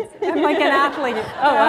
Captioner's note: laughter